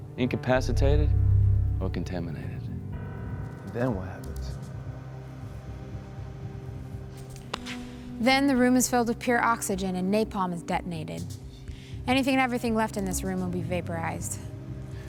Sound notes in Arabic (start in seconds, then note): none